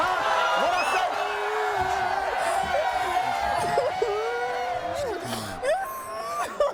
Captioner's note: crying